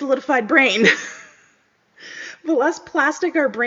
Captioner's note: laughs